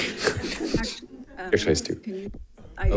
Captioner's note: audience and participants laughing